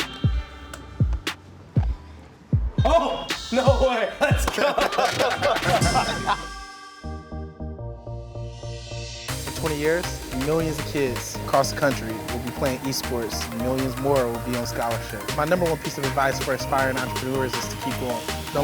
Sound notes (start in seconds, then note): 4.5 exclaims; 5.7 laughing